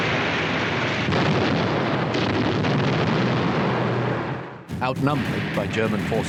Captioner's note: artillery booming